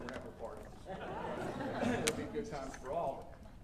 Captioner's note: audience lightly exclaiming